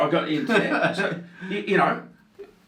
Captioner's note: laughs